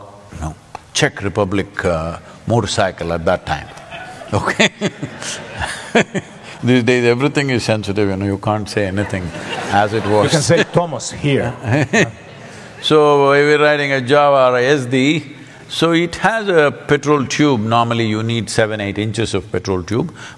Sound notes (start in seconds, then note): 3.5 laughs; 8.9 laughter